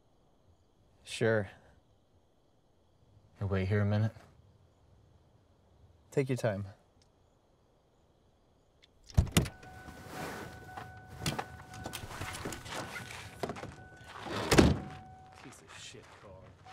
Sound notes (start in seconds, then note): 10.3 indicator beeping; 14.2 car door slamming